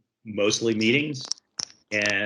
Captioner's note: headphone static